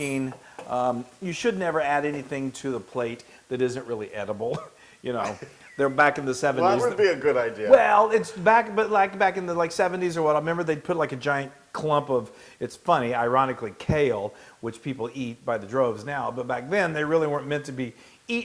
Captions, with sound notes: should never add anything to the plate that isn't really edible. >> [LAUGH] >> You know they're back in the 70s- >> That will be a good idea. >> Well it's like back in the 70s or what remember they'd put like a giant clump of it's funny, ironically kale which people eat by the droves now but back then they really weren't meant to be eaten.